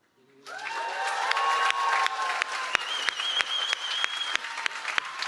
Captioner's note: cheering